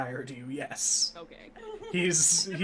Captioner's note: giggling